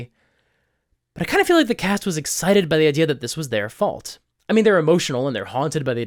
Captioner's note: excited